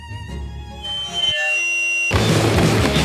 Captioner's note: peaceful music; metal screeching; rock music